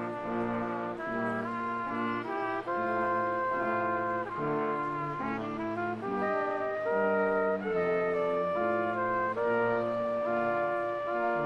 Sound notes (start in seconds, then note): none